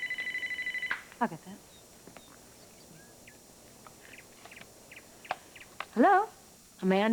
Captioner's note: telephone rings